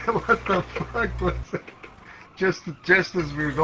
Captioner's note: laughing